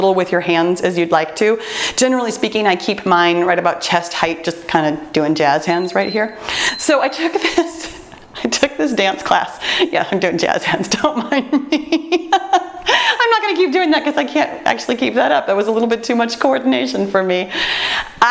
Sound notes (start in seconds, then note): 5.6 timer beeps; 11.2 laughs